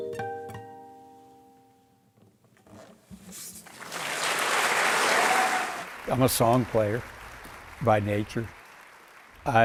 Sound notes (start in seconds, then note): 3.6 applause